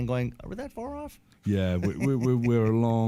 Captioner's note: laughs